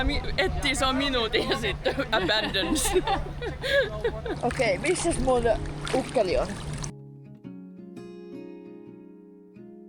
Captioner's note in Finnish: naurua